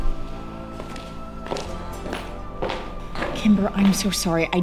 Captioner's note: misfits footsteps as they walk away